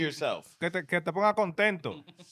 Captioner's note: speaking In Foreign Language